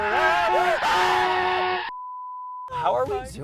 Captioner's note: screams; beep